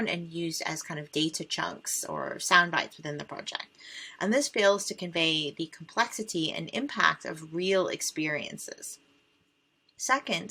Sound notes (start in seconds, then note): none